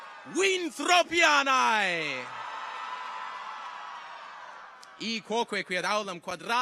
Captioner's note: audience cheers